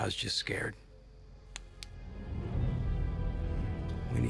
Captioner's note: flashlight clicks